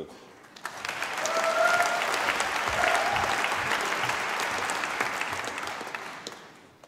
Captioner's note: applause